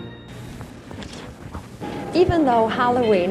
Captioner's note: film reel whirring